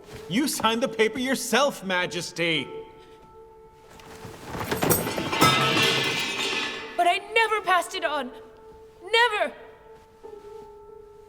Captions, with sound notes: You signed the paper yourself, Majesty! [metal clangs] But I never passed it on. Never!